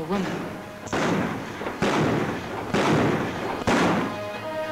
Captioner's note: guns bang